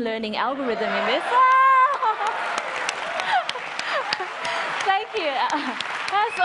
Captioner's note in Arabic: تصفيق